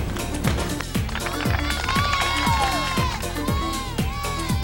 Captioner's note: clapping and cheering; fast-paced music